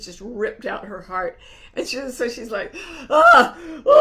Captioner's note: moaning